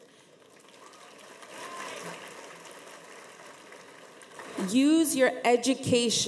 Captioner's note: audience members applaud